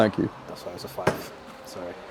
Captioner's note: hand thuds